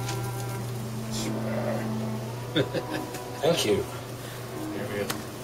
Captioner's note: chuckles